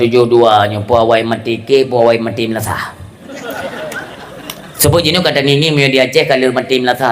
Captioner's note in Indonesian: tertawa